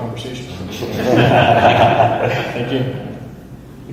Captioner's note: audience laughs